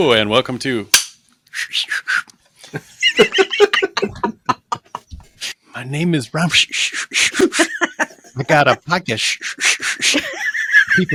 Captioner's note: laughter